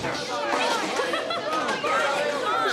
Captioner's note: laughs